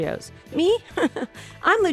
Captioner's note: chuckles